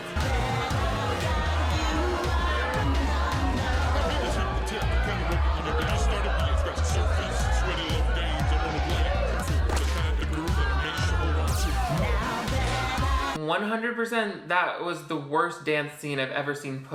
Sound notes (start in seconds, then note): 0.2 upbeat music; 7.8 party goers cheering